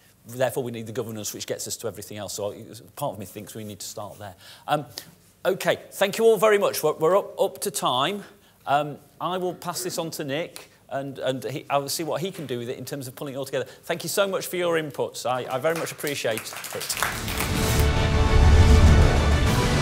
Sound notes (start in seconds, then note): 15.6 applause